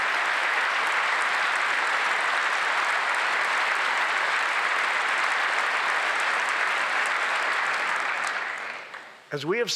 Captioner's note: applause